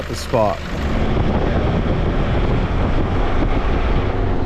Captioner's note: engine rumbling